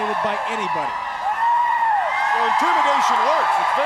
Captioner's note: crowd cheering